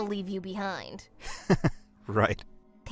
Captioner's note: weak laugh